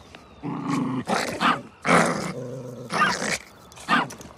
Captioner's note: growling